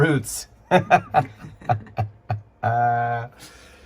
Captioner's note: laughing